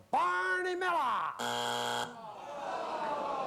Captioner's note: buzzer